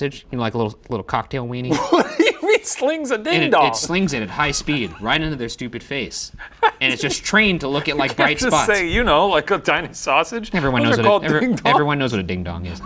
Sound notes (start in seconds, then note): 1.7 laughing; 10.5 laughing